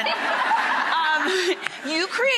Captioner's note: laughter